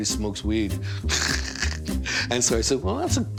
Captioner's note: chuckles